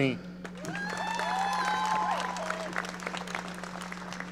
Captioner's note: audience cheering